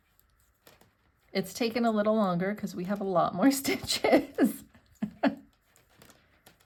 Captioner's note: laughs